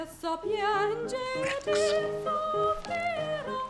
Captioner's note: whispering